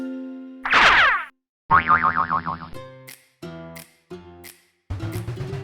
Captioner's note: springing effect